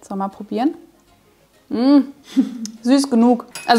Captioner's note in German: kichert